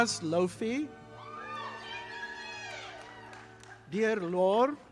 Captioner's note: audience applauding